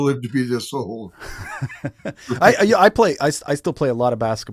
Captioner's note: chuckling